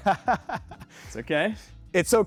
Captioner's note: laughing